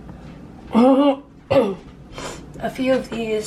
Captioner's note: clearing throat